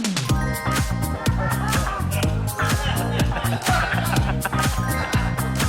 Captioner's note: laughter